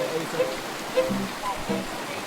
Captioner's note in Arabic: الأحاديث غير الواضحة